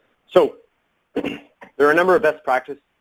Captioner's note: clears throat